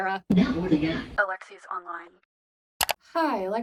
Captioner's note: click